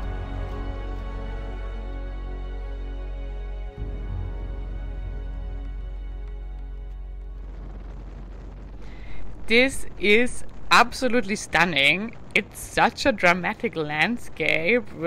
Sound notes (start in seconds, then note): 7.2 dramatic music fades; 9.2 wind whooshes